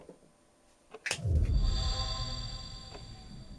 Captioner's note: miracle sound